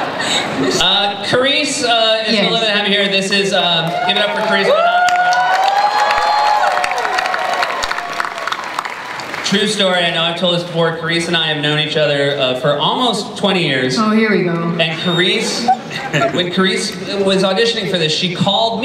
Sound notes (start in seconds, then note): 5.5 cheering, applause